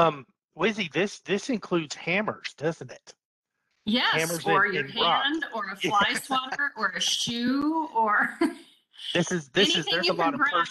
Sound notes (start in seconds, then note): 5.8 laughing; 9.1 chuckles